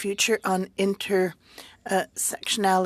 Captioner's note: speaking French